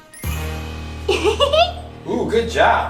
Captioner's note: giggles